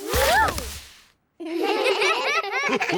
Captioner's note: all giggle